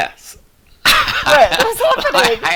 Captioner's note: laughing